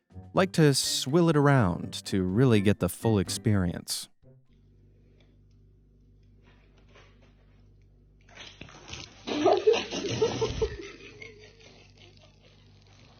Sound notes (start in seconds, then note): 8.7 person spitting; 9.4 people laughing